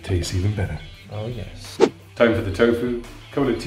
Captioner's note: whooshing